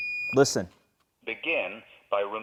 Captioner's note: AED beeps